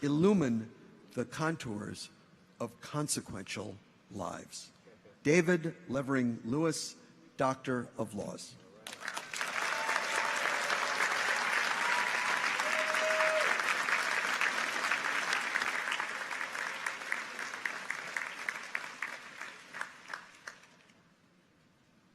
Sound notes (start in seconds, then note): 9.0 people cheer; 9.3 audience applauds